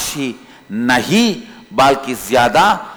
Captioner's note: hindi